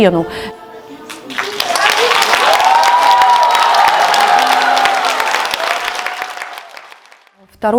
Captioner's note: sounds of applause